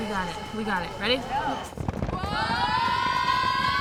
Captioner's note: clapping